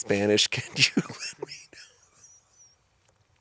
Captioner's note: chuckling